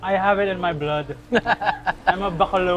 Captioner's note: laughs